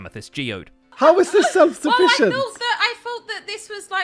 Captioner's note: giggling